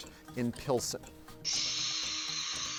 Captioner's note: exhales heavily